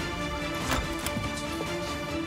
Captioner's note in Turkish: Kapı Açılıyor